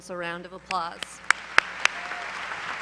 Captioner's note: applause